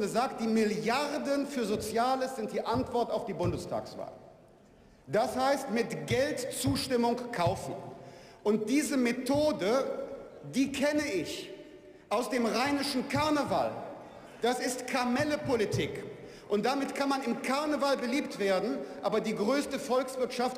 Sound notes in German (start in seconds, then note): none